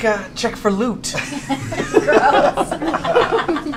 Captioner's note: laughter